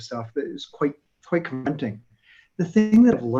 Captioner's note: audio warbles